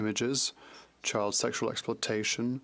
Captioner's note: speaking French